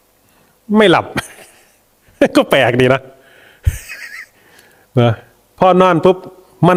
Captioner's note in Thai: เสียงหัวเราะ